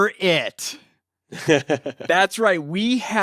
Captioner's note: laughs